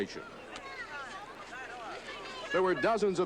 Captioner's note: crowd chatter